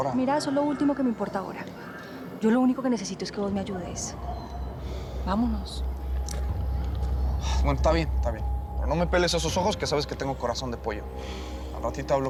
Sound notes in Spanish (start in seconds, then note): none